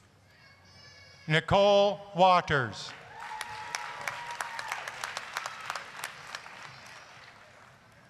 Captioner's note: applause